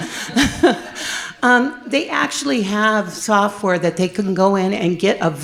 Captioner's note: laughs